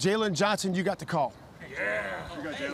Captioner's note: audience cheering